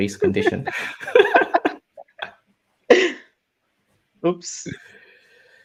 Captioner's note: laugh